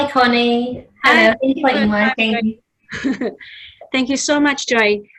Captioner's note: laughs